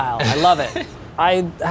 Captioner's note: chuckles